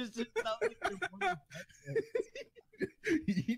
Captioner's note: laughing